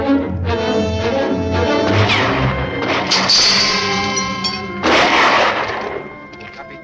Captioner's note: bullets ricochet; guns fire; soldier speaks Spanish